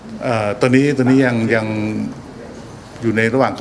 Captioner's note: none